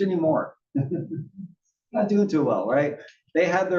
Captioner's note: laugh